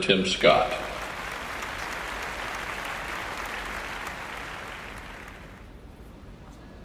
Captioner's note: audience applauds